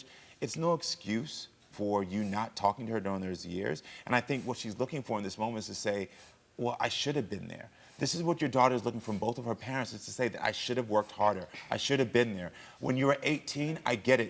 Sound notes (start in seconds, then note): none